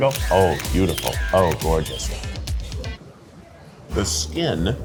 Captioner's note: chuckles; camera clicking